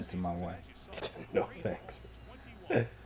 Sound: scoffs

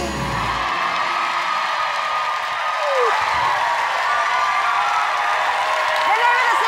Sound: audience cheers

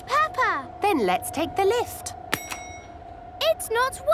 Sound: lift pings

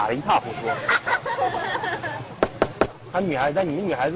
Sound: kids laughing

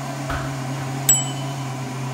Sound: ding

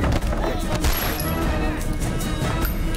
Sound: gun shot

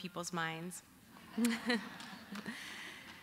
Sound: laughter

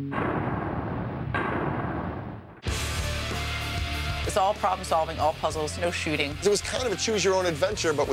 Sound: pounding sound effect

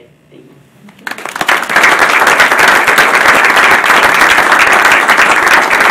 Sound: audience applauding

